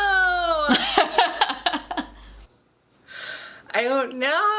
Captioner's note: both laughing